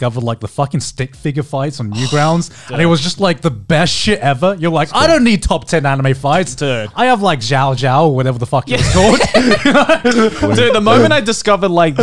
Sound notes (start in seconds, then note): 8.7 both chuckling